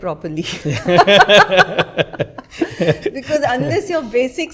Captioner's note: laughter